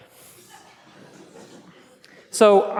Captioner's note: laughs